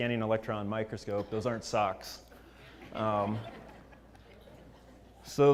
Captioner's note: laugh